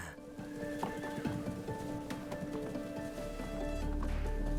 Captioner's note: horses whinnying; suspenseful music